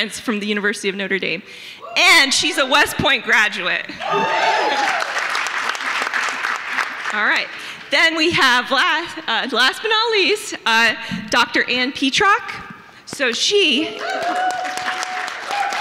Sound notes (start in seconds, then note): 4.0 audience members cheering, applauding; 13.9 audience applauding; 15.6 audience members cheer